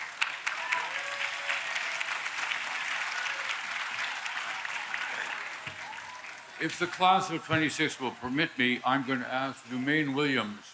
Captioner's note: applause